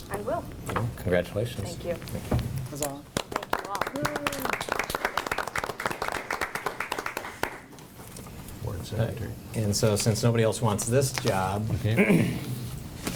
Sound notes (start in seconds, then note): 3.2 board members applaud